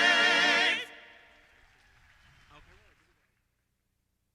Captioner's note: applause